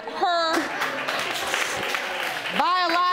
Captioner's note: audience applauding